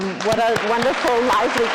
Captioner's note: audience applauding